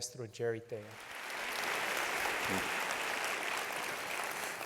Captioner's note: applause